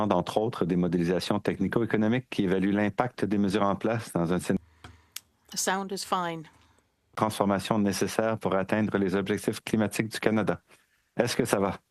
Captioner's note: speaking French